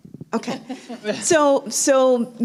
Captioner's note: laughter